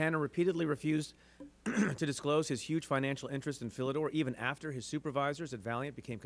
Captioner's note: clears throat